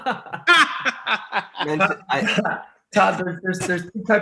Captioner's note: laughing